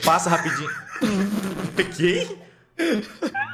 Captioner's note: laughs